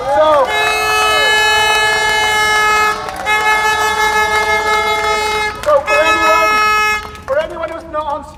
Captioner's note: applause